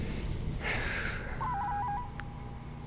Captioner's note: heavy sigh